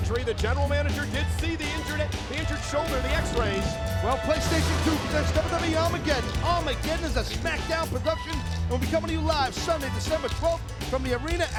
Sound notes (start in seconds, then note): 2.5 thunder rumbling; 3.0 graphics whooshing